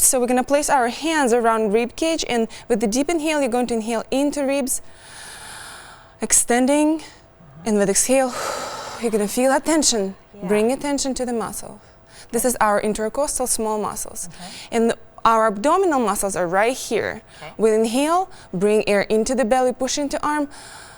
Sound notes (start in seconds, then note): 4.9 inhales; 8.2 exhales; 20.5 inhales